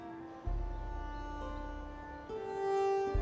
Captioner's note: birdsong